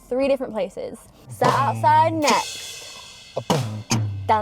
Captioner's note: beatboxing